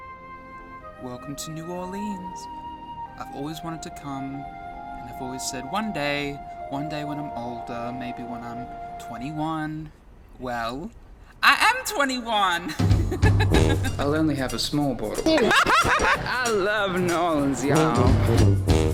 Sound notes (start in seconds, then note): 12.6 laughs